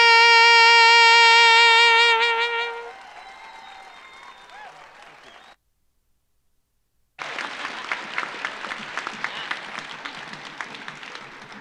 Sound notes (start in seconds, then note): 0.8 audience applauding; 1.7 audience cheering